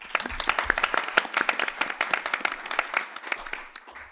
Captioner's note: applause